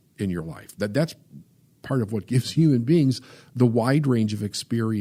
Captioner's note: laughs